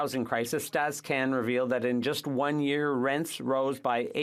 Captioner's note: speaking French